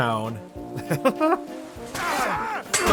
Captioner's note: laughs